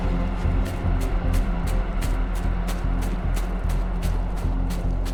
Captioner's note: footsteps crunching